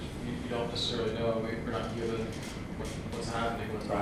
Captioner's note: softly mumbling